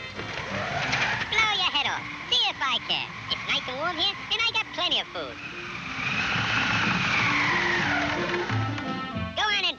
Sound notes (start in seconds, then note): 1.8 wind whooshing; 6.8 wind whooshing